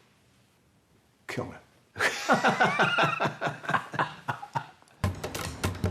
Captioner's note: both laughing